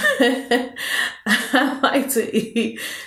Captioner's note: laughing